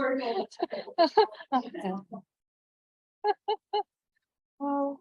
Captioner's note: laughing